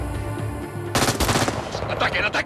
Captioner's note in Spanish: Disparos